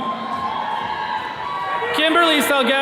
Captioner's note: attendees cheering